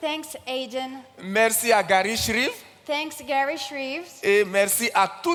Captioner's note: continues in French